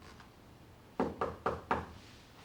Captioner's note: knock at door